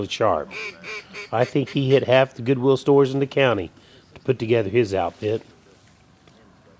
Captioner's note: duck calls